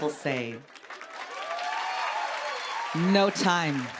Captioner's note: cheers and applause